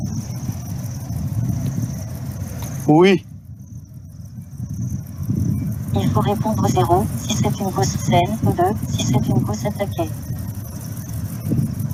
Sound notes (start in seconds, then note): 3.0 man speaks in a foreign language; 6.2 woman speaking in foreign language